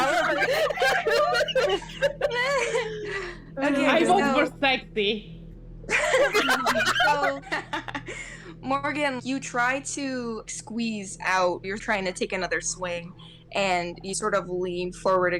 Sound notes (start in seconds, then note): 0.0 everyone laughing; 5.9 more laughter